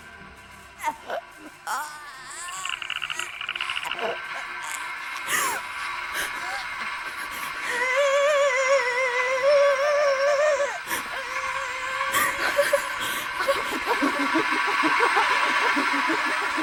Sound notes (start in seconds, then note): 1.6 Alice groaning; 1.7 creature chittering; 5.2 woman gasping; 7.8 Alice screaming; 10.9 woman gasping